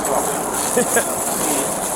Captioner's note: laughs